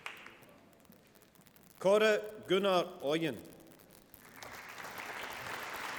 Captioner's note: applause